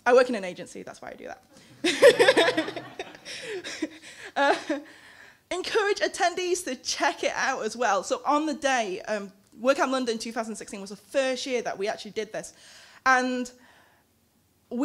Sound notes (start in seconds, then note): 1.8 laughing